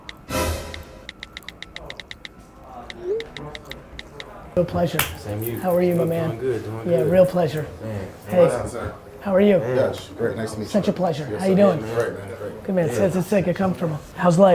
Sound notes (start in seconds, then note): 0.2 dramatic music; 2.4 phone texting